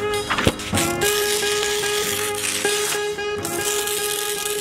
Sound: paper ripping

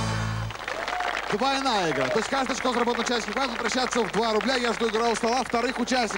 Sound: applause

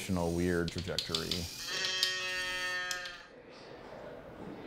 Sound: toy moos

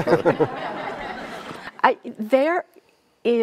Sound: all laughing

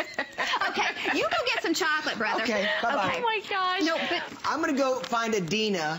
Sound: laughter

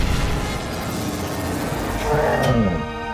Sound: lion roars

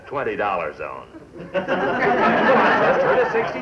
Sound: people laughing

